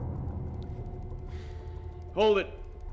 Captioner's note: sighing